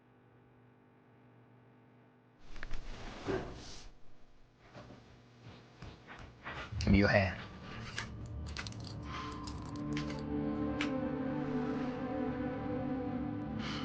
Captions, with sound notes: Give me your hand. (handcuff clicking shut)